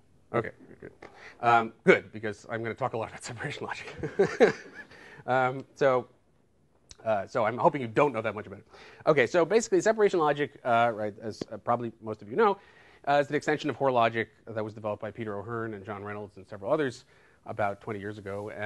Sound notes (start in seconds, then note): 4.4 laughs